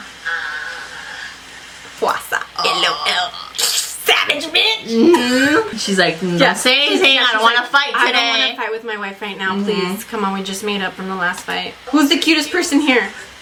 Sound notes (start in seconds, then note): 4.3 laughs